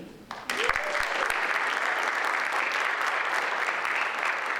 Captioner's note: audience applauds